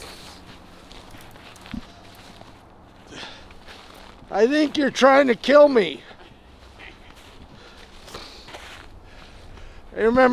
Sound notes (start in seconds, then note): 6.7 laughing